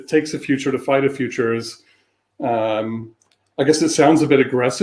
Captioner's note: erm